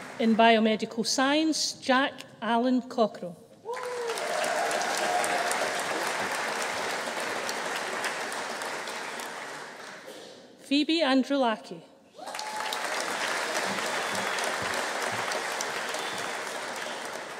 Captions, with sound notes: In Biomedical Science, Jack Allan Cockerill. (AUDIENCE CHEERING) (AUDIENCE APPLAUDING) Foivi Androulaki. (AUDIENCE APPLAUDING) (AUDIENCE CHEERING)